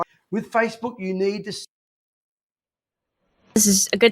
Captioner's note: audio cuts out